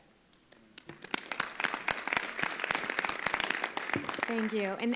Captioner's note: applause